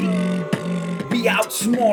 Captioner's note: comic booing